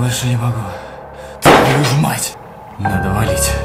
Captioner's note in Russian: выстрел